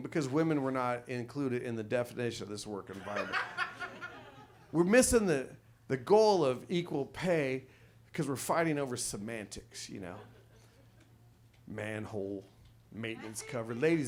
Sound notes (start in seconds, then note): 2.9 audience laughs